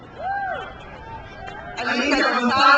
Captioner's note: crowd cheers